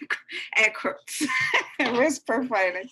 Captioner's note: laughing